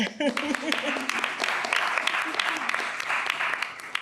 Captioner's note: audience clapping